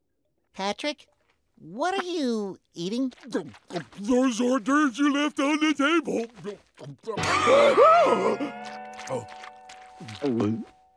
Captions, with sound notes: Patrick, what are you eating? Those hordorvers you left on the table. [gasping]